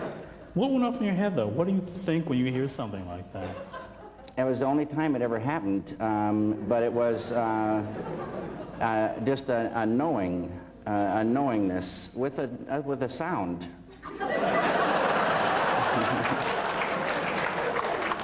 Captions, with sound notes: What went off in your head though? What do you think will you hear something like that? It was the only time it ever happened, but it was just a knowing... a knowingness. With a... with a sound! [laughter]